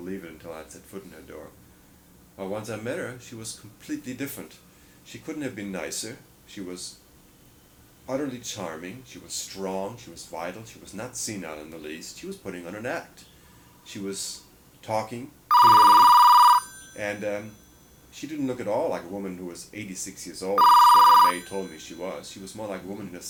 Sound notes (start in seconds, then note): 15.5 phone ringing